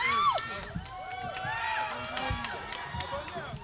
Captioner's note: crowd cheers